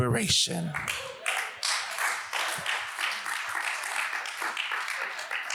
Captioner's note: audience applauds